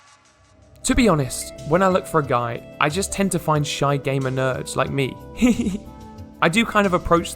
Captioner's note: laughs